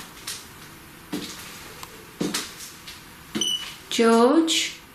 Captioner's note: footsteps; beep